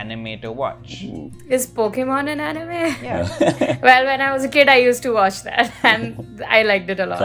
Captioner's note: laughter